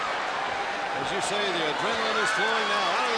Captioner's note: crowd chatter